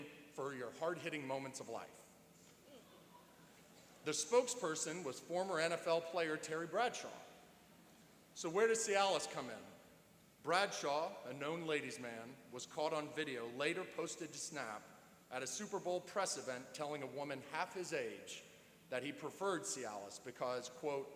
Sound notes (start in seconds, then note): 2.7 chuckling